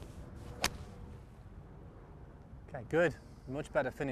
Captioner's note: golf swing swoosh